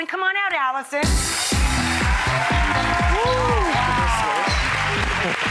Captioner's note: cheering